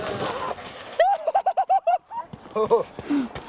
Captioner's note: laughter